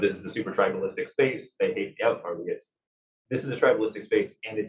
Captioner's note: male Voice